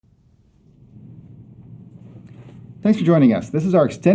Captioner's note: logo whooshing